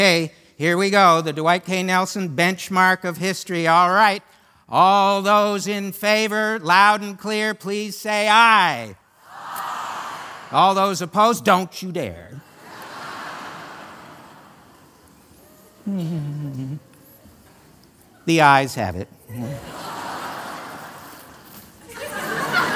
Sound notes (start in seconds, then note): 12.5 laughter; 16.0 humming; 20.1 laughter